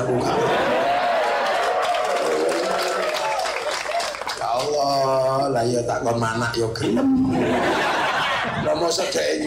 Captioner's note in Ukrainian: Оплески